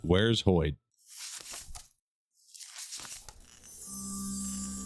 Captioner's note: pages turning; shimmering